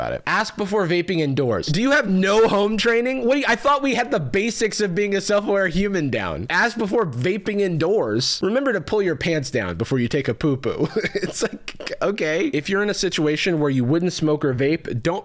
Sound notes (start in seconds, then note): 10.7 laughing